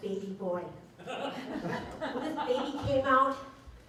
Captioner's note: laughter